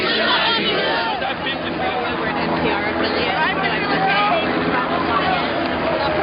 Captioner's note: helicopter propellers roaring